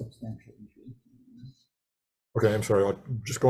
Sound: assistant speaks faintly

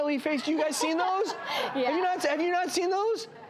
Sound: laughs

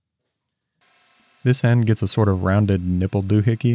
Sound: lathe whirring

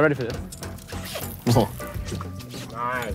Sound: upbeat music; fishing line whooshes

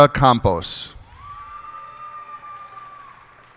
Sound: cheers and applause

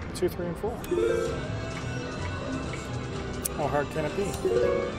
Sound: machine beeps

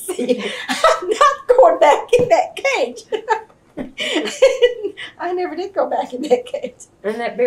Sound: laughs

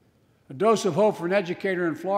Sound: none

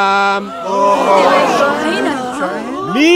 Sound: shocked sounds

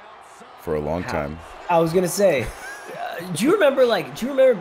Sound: laugh

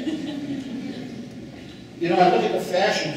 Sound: laughing

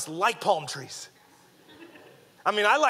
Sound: audience laughing

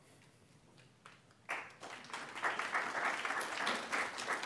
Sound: applause

